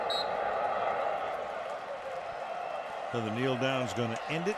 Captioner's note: whistle